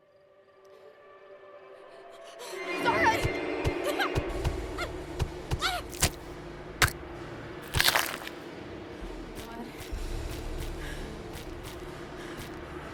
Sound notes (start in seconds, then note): 0.7 ominous music; 3.3 weapon beating; 6.1 woman grunting; 9.2 footsteps crunching